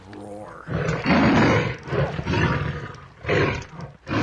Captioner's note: ਸ਼ੇਰ ਗਰਜਦਾ